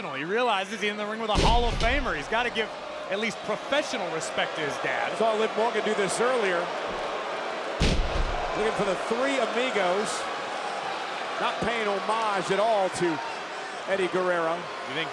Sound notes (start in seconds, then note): 10.3 spectators cheering